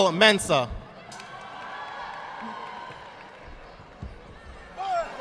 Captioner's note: audience applauding